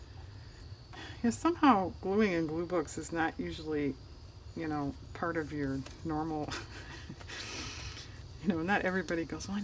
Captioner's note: laughs